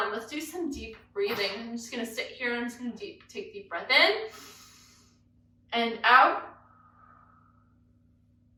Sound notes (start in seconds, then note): 4.3 exhales; 4.3 inhales; 7.4 inhales